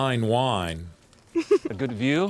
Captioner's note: girl giggling